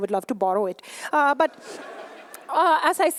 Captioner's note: laughter